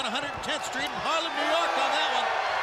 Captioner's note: crowd cheering